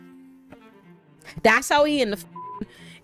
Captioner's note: beep